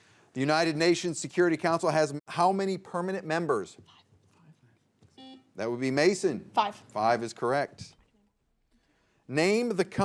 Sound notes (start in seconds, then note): 5.2 buzzer beeps